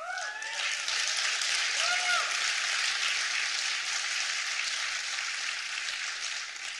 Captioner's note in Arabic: تصفيق